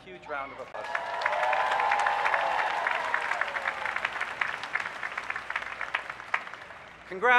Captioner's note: applause